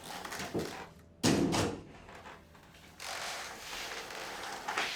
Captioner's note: floor cracking. Footsteps. Door closing